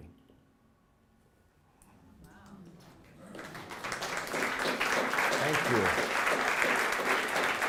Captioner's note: applause